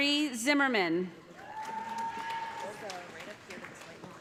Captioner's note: cheers and applause